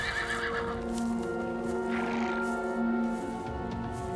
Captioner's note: A horse whinnies